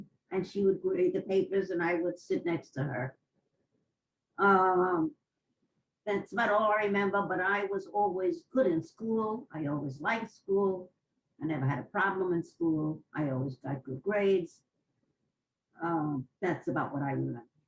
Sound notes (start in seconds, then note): 3.2 pauses for 3 seconds